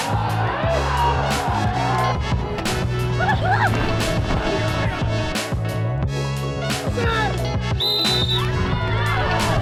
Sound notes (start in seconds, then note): 0.0 cheering; 3.4 laughing; 7.7 whistle; 8.1 cheering